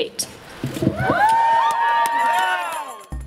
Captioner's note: crowd cheering